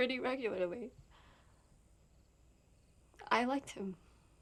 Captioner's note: crickets chirping